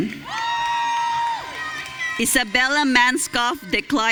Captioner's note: audience cheering